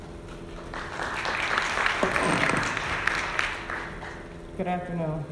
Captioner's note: audience applauding